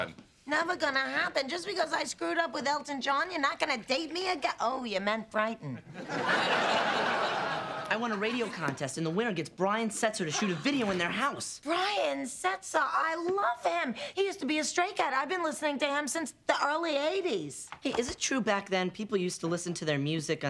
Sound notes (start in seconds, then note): 5.9 laughter